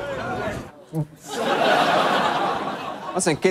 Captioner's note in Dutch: gelach